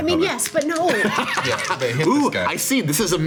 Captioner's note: laughing